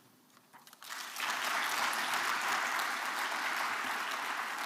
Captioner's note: applause